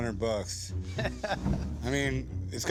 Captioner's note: laughter